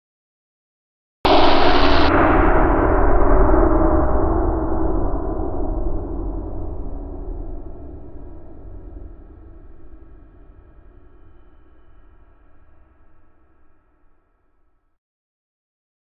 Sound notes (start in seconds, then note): 1.2 sound of surge